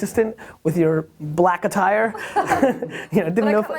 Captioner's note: laughs